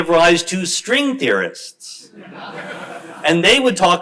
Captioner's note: crowd laughs